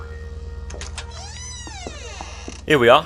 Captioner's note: a door opens